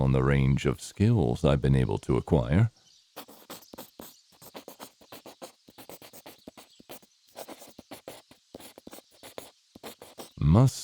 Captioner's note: pencil scribbling